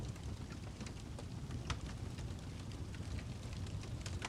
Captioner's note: ambient Campfire Sounds